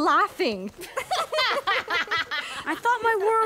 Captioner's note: laughing